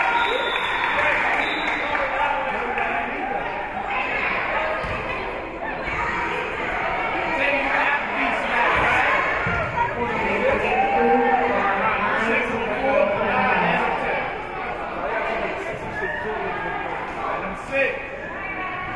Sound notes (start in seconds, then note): 0.0 spectators cheering and applauding; 1.3 whistle being blown; 3.4 spectators and teams chattering; 14.6 spectators and teams chattering